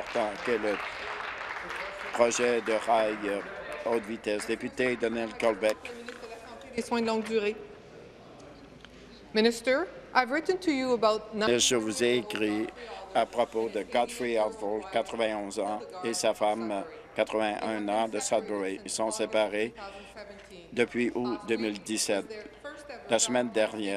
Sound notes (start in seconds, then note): 4.2 applause; 7.9 speaking in French